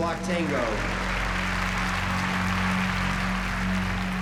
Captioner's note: applause